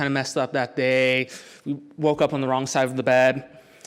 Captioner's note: none